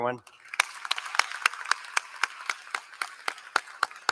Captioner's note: applause